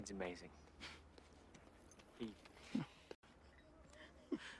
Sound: chuckles

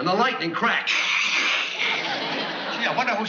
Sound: crackling

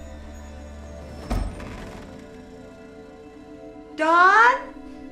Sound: eerie noise; loud thud

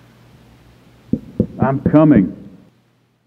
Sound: knock at door

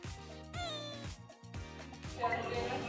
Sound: cries

